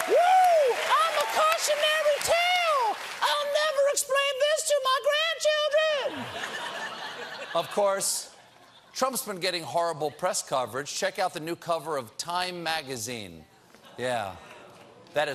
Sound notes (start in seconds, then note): 6.1 laughter